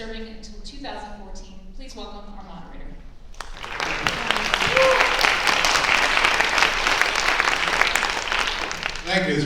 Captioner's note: applase